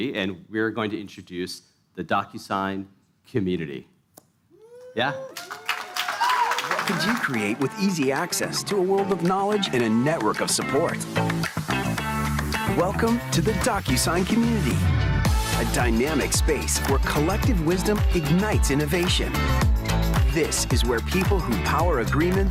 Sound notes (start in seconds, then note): 7.9 applause